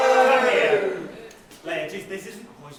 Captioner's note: audience cheering